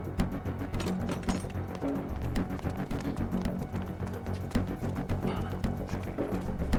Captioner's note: suspenseful music continues; door rattling